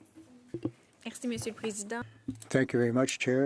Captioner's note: speaking French